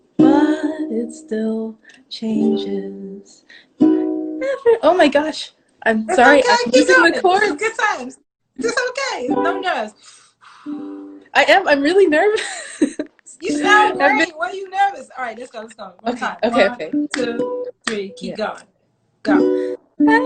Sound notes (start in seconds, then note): 10.0 breathes in and out; 12.6 laughs